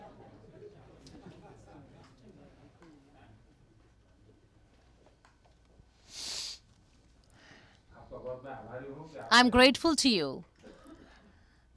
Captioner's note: laughter; through translator